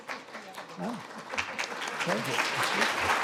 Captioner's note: speaking faintly; audience clapping